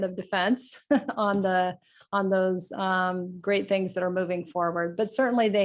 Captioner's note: laughter